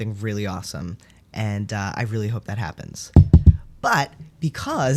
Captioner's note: knocks on desk